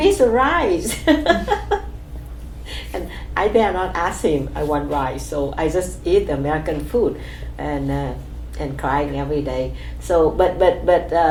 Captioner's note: laughs